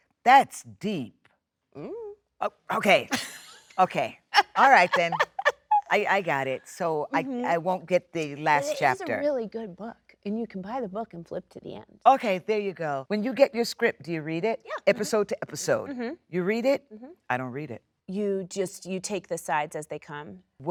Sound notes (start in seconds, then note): 4.3 Jennifer laughs